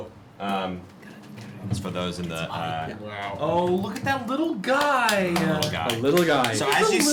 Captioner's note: whispering